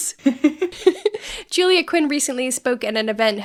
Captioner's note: giggles